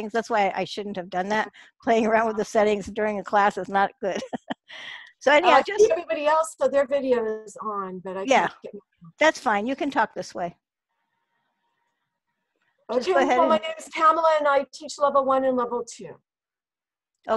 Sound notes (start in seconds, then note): 4.1 laughs